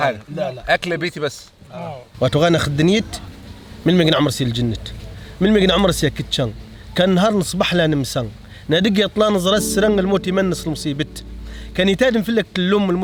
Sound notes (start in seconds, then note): 2.2 speaks Amazgihs' language